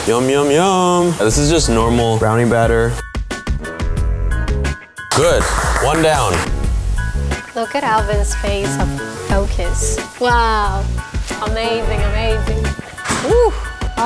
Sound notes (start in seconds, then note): 3.5 upbeat music; 5.1 claps